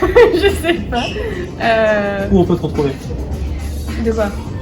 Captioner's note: laughs